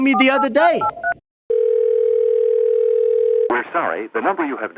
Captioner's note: phone ringing